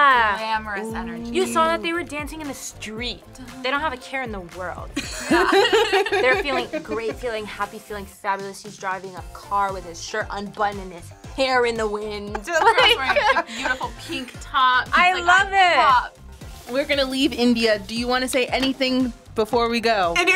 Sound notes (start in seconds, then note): 5.0 both laugh; 12.4 laughs